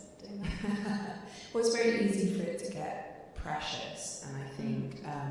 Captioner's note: laughing